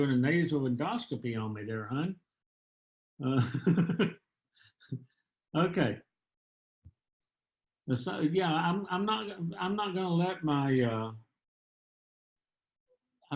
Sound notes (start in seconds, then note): 3.3 laughter